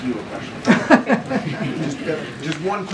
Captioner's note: laughter